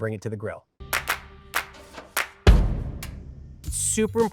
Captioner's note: hands clapping